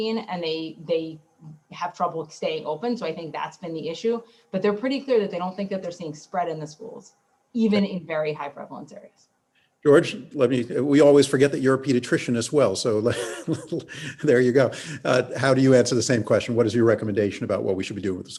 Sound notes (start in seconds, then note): 13.1 laughs